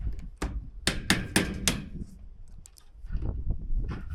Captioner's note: drill tapping